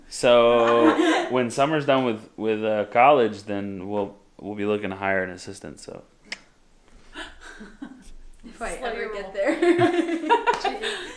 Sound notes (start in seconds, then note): 6.0 clicks tongue; 9.7 laughing